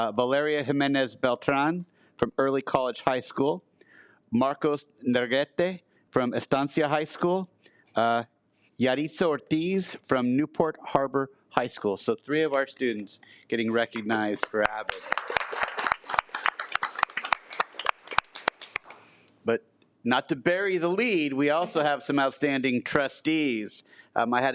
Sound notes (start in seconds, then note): 13.8 attendees applaud